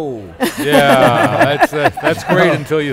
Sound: laughing

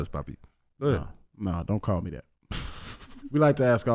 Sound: Iman laughing

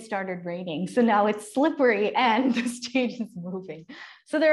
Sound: laughter

